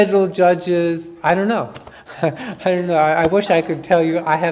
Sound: chuckles

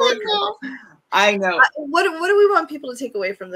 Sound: laughs

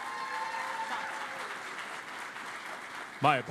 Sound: cheering and Applause

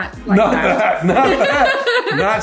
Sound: laughing

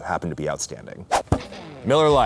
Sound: whoosh

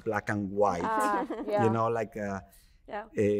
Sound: chuckling

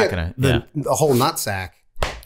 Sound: Rob claps

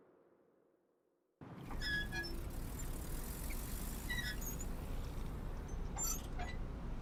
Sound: sign creaking

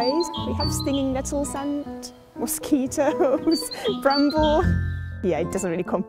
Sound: laughing

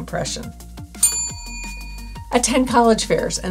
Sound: bell rings

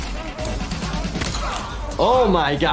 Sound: blows thudding

